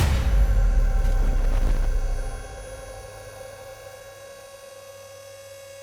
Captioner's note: dramatic music; aircraft canopy whirring